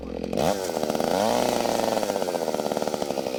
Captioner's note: tool buzzing